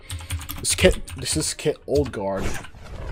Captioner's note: stutters